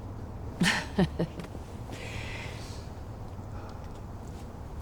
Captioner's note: woman chuckles